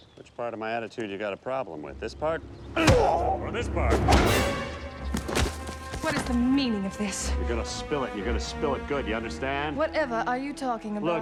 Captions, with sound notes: Which part of my attitude you got a problem with? This part? (GROANING) (TENSE MUSIC PLAYS) Or this part? (DRAMATIC HIT) What is the meaning of this? You're gonna spill it and you're gonna spill it good ya understand? Whatever are you talking about?